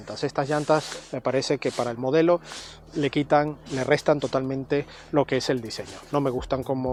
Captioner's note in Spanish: resoplido